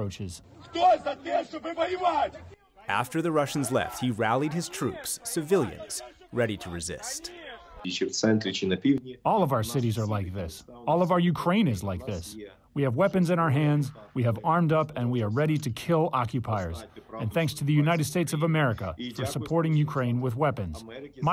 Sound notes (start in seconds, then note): 7.9 through translator